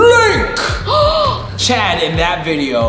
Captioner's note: gasps